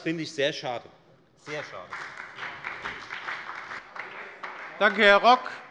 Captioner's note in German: Beifall bei der FDP und bei Abgeordneten der SPD